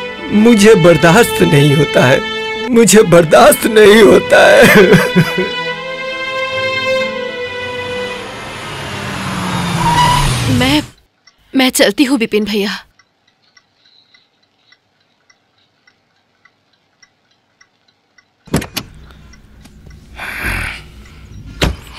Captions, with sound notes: ..I cannot take the pain. I cannot. [Crying] [Brakes squeal] I am going, Bipin.